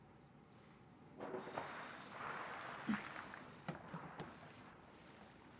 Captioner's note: water splashing